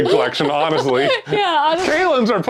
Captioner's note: laughing